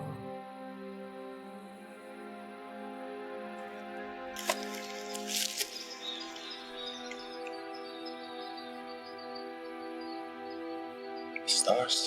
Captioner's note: footsteps crunching on leaves